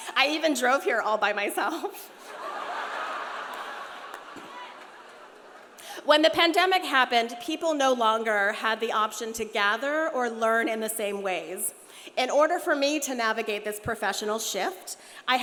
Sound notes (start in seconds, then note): 2.2 audience laughs